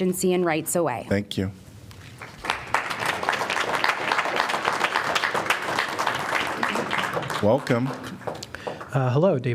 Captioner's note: applause